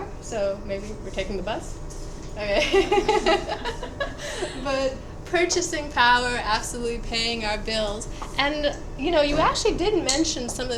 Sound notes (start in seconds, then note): 2.6 laughs